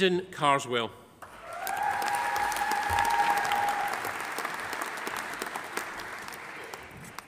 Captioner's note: audience cheering; audience applauding